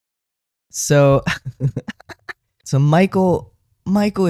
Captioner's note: laugh